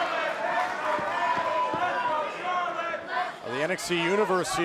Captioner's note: fans chanting